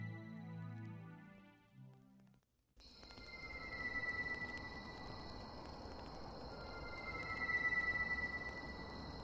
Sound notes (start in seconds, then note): 2.8 crickets chirping; 2.9 tense music